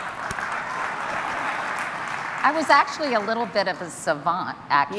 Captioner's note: applause